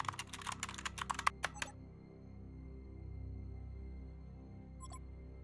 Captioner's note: monitor blips; tense music; monitor blips